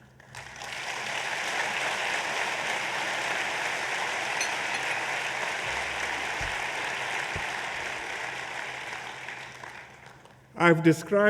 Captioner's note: applause